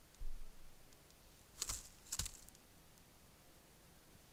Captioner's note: Kākāpō footsteps